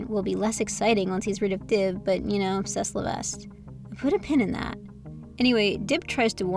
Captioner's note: incorrect French